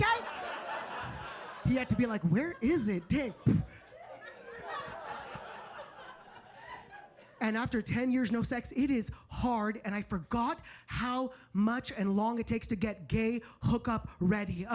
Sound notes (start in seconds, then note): 0.3 audience laughing; 3.5 audience laughing; 3.5 blowing